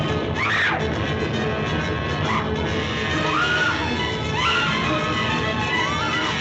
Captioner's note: suspenseful music continues; Elaine screaming